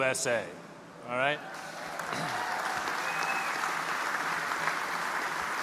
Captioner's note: audience applauding